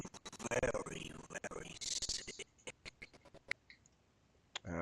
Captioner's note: audio skipping